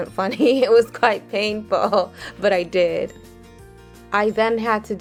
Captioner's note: chuckles